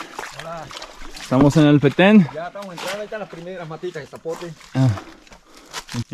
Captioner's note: conversing in foreign language